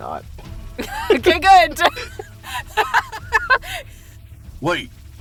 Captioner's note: laughs